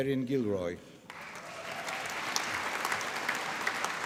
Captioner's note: applause